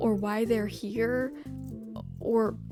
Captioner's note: none